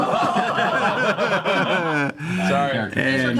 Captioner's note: laughter